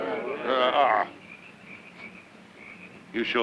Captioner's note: insects chirping